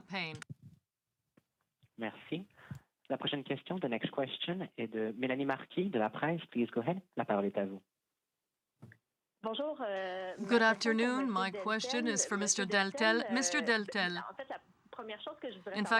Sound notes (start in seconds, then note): 11.5 speaking french